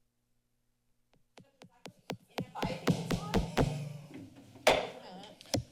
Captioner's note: silence; tapping sound